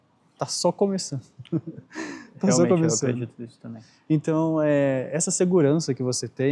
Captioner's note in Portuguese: risadas